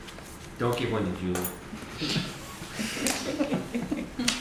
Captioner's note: laughter